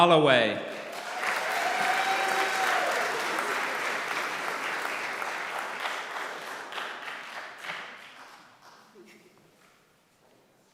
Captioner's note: applause